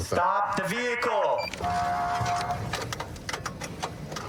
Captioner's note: horn blaring